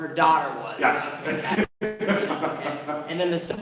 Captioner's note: laughter